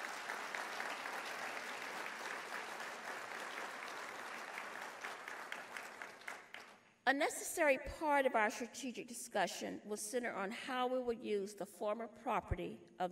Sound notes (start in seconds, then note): 3.1 applause